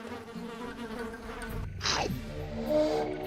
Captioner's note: buzzing; chomps; slurps tongue